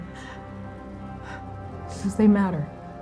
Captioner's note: exhaling, sniffing